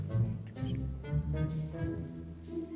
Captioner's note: whispers